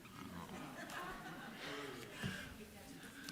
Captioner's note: laughter